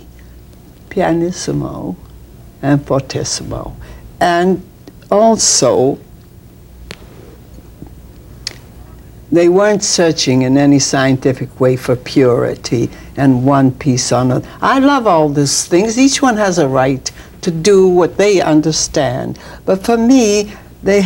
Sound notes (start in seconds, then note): 1.0 speaks in a foreign language